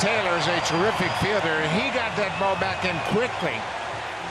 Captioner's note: cheering and Applause